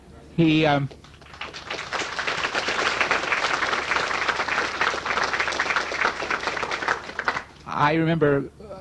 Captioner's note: applause